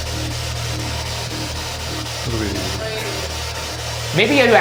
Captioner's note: spirit Box buzzing